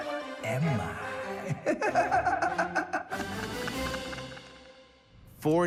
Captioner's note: laughs